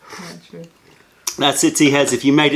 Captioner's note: sips tea